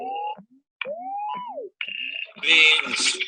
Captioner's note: electronic noises